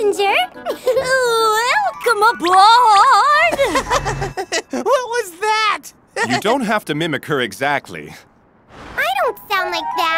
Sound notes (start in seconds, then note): 3.4 giggles